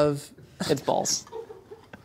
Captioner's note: laughs